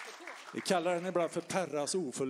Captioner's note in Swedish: applåder